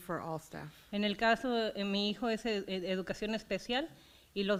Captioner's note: foreign language